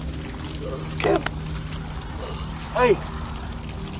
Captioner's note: Ishmael groaning